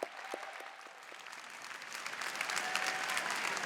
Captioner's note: applause